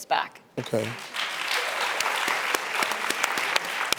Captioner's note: clapping